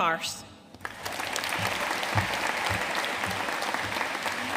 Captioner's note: audience applauding